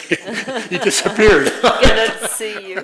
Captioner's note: laugh